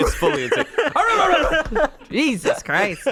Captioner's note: mimics barking